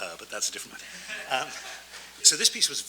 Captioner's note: audience laughs